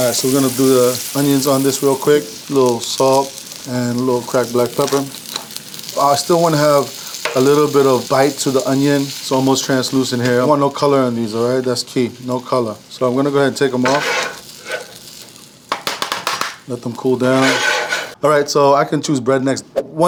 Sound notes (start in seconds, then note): 13.7 scraping grill; 15.7 tapping grill